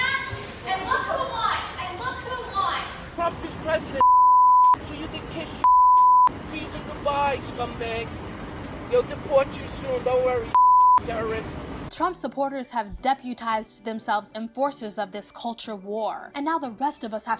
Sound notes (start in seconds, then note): 5.6 beep; 10.5 beep